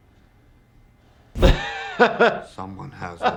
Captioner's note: laughing